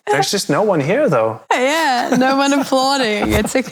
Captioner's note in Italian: ridendo